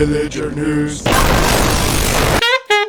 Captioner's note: the best death sound ever plays; helicopter crashes again